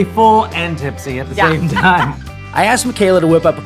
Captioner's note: laughing